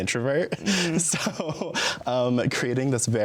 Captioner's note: laughs